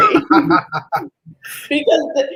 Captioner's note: laughs